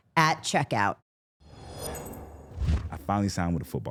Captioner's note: logo swooshing